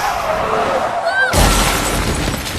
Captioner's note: tires screeching